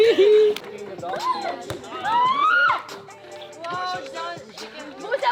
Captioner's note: laughs; hands clapping; ball thumping; girl screaming; speaks faintly